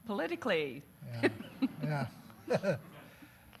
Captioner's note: laughing